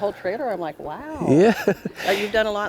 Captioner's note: chuckles